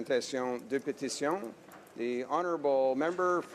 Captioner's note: speaking French